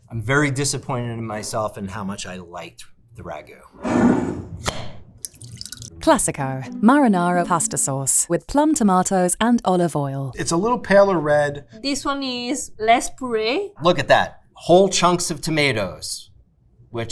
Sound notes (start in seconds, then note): 3.8 jar scraping; 5.2 sauce sloshing; 5.2 jar clacking